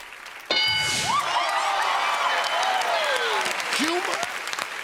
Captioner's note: cheers and applause